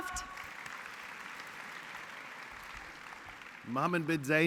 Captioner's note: applause